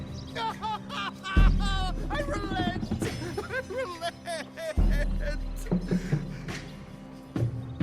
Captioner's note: sobbing